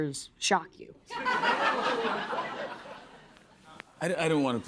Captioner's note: laughter